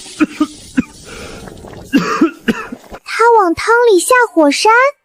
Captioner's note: cough cough